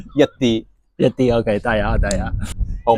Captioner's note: in Cantonese